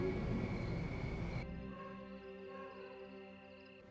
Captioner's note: dog barking in distance